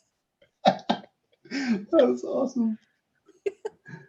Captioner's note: laughs